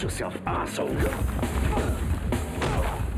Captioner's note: men grunt; upbeat music